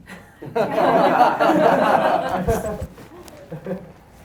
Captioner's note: laughing